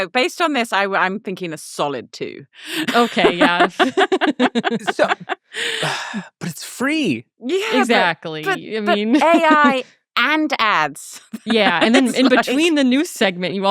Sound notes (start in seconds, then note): 2.6 laughing